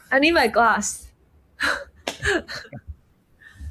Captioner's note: chuckles